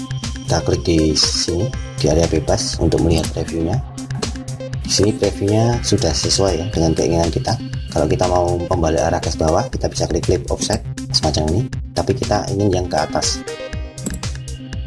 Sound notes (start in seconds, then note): 10.6 click